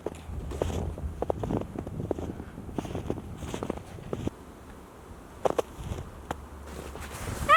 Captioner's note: crunching of snow